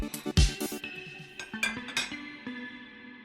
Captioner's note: cutlery sounds beneath the music